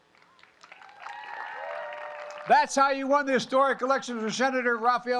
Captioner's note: applause